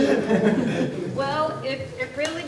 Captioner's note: laughs